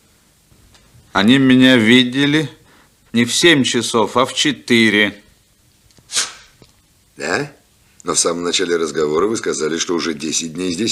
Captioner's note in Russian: фыркает